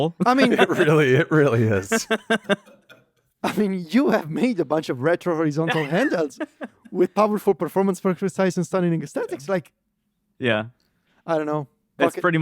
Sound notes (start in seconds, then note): 2.1 laughs; 5.6 laughs